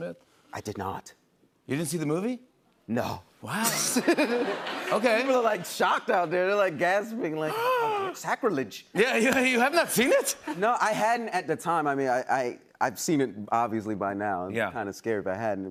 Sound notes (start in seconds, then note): 7.7 gasps